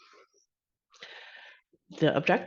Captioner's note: inhales deeply